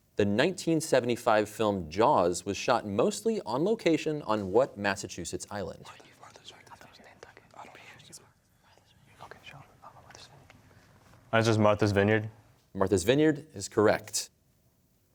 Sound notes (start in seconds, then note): 6.3 whispering; 9.0 all whispering